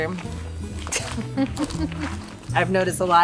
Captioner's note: laughs